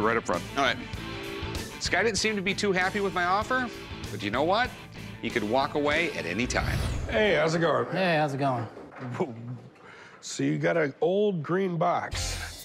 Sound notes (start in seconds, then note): none